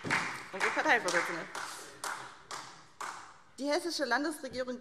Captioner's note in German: Beifall SPD